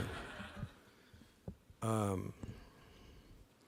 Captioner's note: laughter